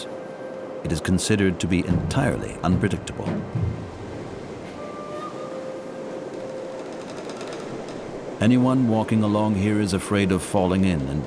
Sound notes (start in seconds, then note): 3.9 rushing water; 5.1 dramatic music